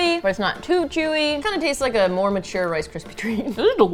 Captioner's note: laughs